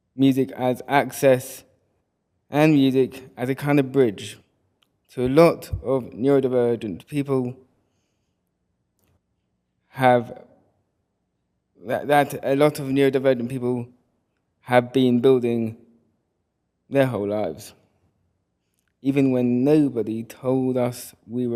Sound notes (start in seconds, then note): none